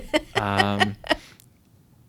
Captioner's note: laughter